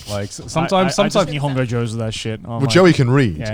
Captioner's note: speaks Japanese